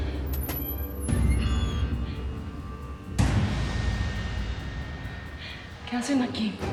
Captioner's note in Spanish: Crujido de la puerta